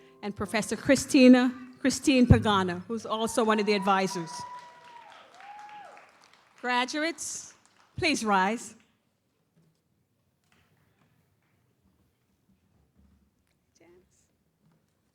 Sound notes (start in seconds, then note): 4.7 audience cheers and applauds